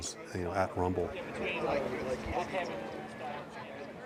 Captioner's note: chatter